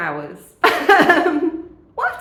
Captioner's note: laughing